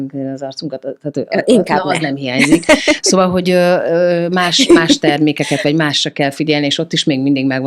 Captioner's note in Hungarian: nevetés